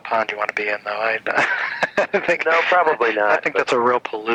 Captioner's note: laughs